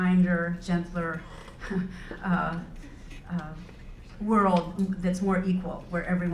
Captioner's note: laugh